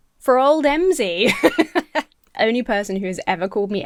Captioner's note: laughs